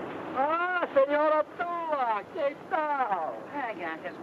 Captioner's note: speaks in foreign language